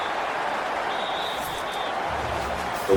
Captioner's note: crowd Noises